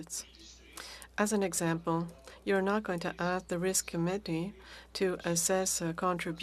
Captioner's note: speaking French